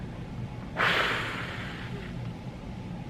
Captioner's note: heavy sigh